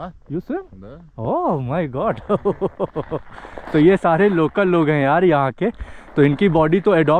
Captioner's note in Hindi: हंसी